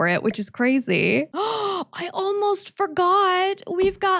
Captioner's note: gasp